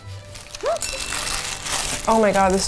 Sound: bell ringing

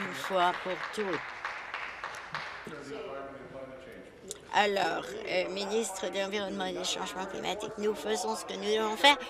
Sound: applause

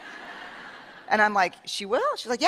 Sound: laughter

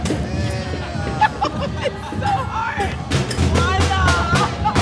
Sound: laughing

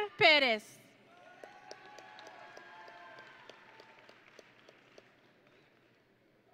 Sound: audience and graduates cheering

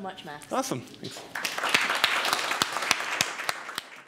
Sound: audience applause

